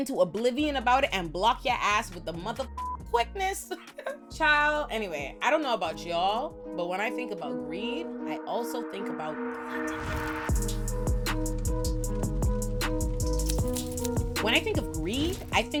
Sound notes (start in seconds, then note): 3.0 beep; 4.6 laughs